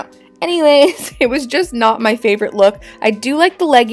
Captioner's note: chuckling